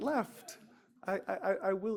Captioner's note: laughter